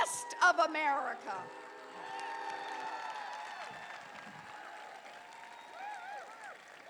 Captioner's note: applause